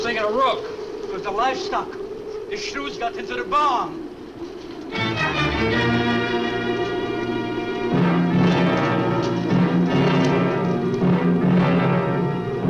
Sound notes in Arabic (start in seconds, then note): 4.8 موسيقى أوركسترالية مشؤومة; 5.4 عواء ريح مكتوم